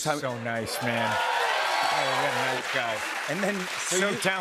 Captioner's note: cheers and applause